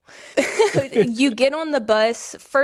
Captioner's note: laughs